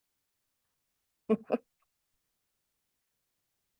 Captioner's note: giggling